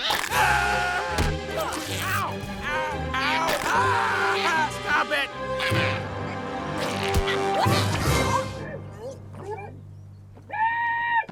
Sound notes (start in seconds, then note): 5.2 growls; 8.1 muffled screaming